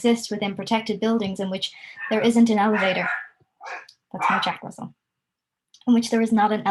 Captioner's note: dog barking